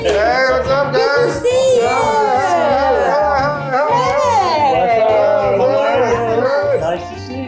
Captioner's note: group welcoming